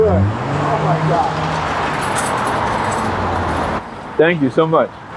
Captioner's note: car engine revving